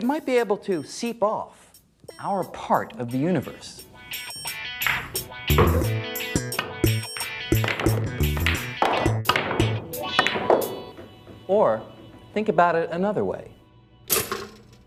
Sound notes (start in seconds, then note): 7.0 balls clacking